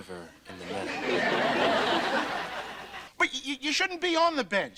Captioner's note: audience laughter